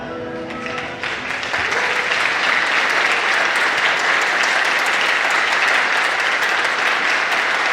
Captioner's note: applause